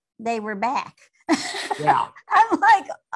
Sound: laughing

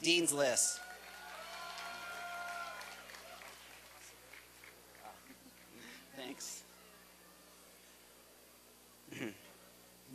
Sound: applause and cheering

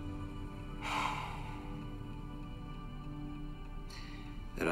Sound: Jake sighs

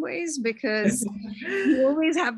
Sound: laughs

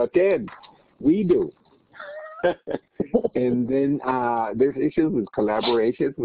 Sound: laughter

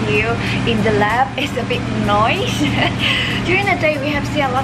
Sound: laughs

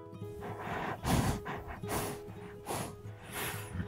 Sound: deep breaths

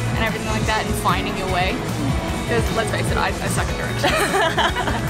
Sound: laughs

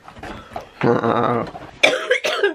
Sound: chuckles; coughing

